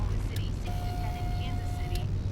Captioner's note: radio Announcer